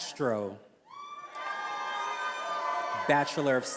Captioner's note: attendees cheering